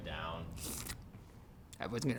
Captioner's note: slurps